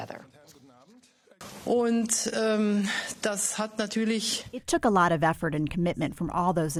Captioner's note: through translator